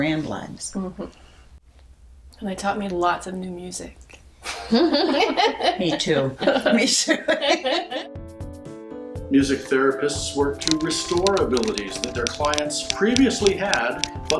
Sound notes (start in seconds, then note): 4.5 everyone laughs; 8.0 cheerful, upbeat music